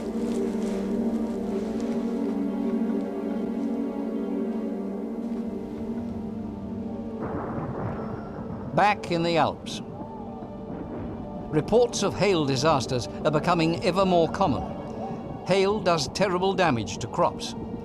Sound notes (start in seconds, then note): 0.2 tense music; 7.1 thunder rumbling; 10.2 haunting birdcall